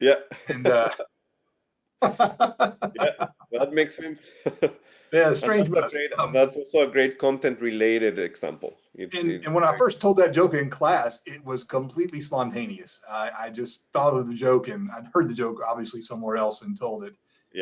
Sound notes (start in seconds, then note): 0.0 laughs